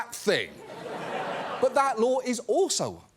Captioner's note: laughter